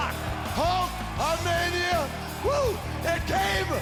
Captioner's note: crowd cheering